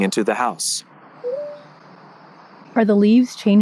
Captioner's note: Meta beeps